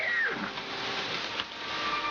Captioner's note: machinery